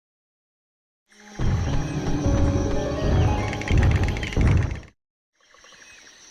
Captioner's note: stomping